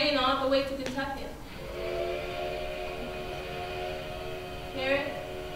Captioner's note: train whistle